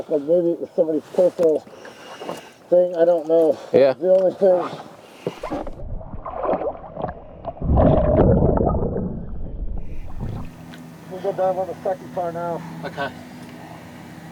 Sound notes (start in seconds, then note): 5.3 water gurgling